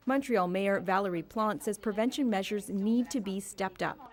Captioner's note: speaking French